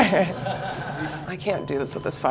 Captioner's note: group chuckling